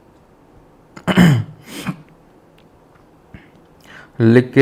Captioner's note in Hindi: गला साफ़ करने की आवाज़